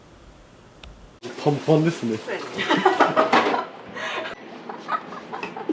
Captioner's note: laughs